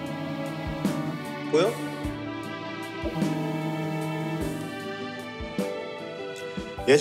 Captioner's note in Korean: 휴대전화 진동음; 휴대전화 진동음